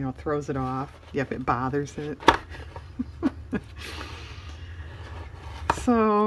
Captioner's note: laughs